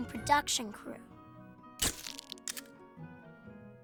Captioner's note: camera clicking